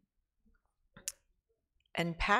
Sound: clicks tongue

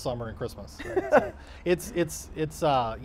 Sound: laughing

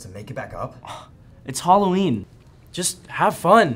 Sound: scoffs

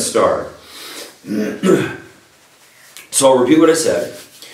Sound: coughing

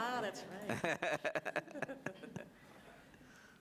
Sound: laughing

